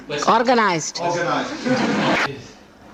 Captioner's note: laughter and applause